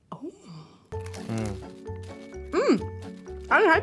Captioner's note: moans happily